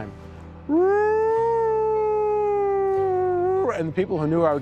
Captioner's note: howling